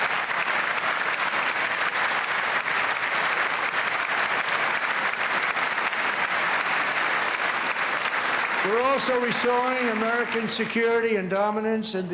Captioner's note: cheers and applause